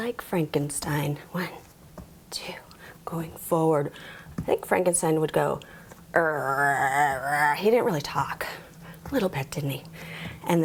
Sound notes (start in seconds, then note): 6.2 growls deeply